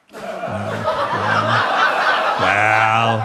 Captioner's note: audience laughs